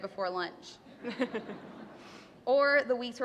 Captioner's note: laughter